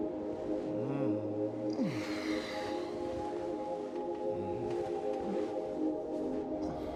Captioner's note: Logan sighs